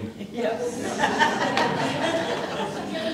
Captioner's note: laughter